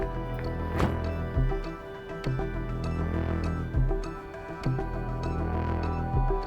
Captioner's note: gentle music continues; door shutting